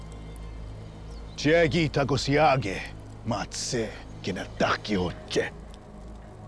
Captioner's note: speaking shawnee